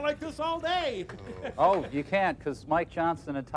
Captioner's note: groans